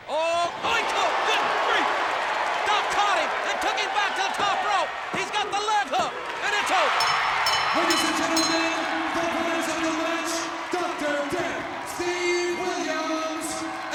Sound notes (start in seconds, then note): 0.6 audience cheers; 6.9 audience applauds and cheers; 6.9 bell rings